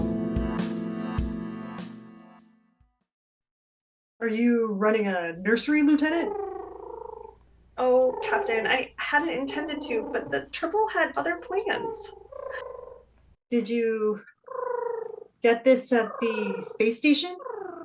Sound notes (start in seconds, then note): 6.2 tribbles cooing